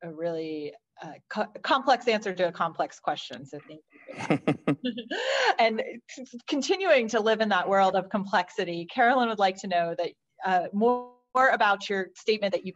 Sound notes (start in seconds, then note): 4.1 laughter